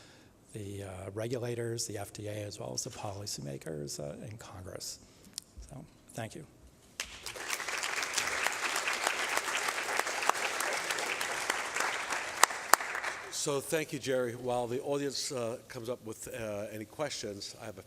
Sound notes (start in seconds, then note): 6.9 applause